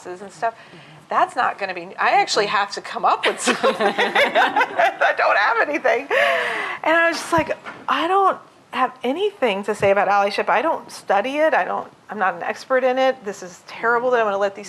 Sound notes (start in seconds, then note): 3.3 laughter